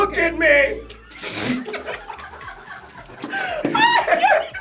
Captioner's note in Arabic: يضحك الجميع